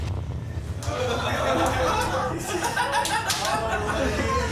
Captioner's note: laughter